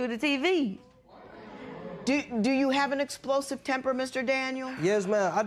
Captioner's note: spectators murmur